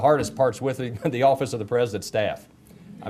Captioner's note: chuckles